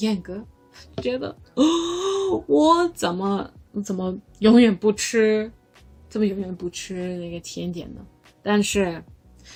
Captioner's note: gasp